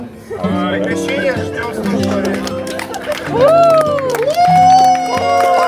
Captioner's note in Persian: صدای تشویق